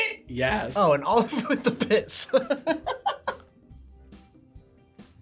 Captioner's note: laughs